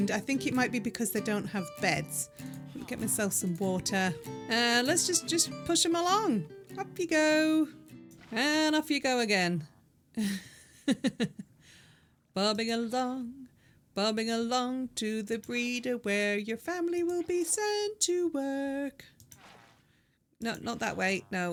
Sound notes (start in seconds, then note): 10.0 laughing; 12.1 singing